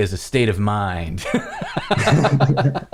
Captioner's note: laughter